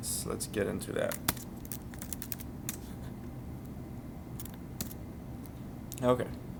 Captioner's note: sounds of Typing